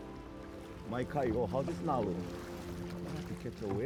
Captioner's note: speaking Hawaiian